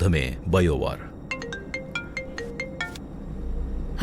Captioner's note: cell phone rings